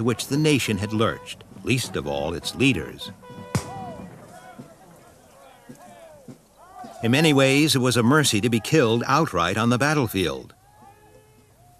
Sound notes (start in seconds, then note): 5.0 shouting